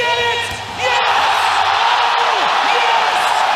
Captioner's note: crowd roars